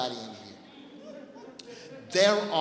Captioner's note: laughing